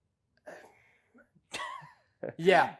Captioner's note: laughs